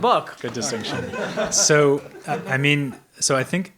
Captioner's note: audience member laughing